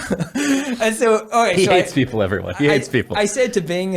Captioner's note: laughs